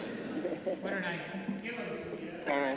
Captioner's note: off microphone